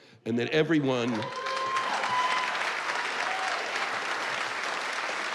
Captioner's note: cheers and applause